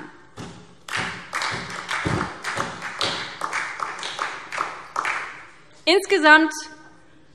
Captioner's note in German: Beifall SPD